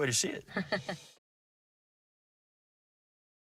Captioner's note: laughs